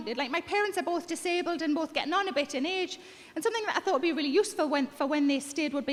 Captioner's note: none